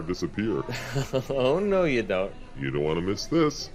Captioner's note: chuckles